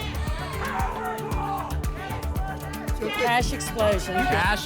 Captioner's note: audience shouting games